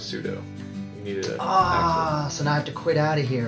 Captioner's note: groaning